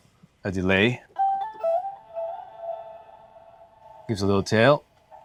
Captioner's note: tones playing